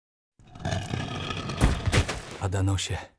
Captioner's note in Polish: odgłos przesuwanego ciężkiego wieka od trumny